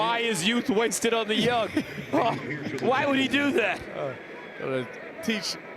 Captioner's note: laughter